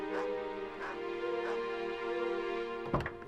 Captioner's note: dramatic orchestral music; dog barking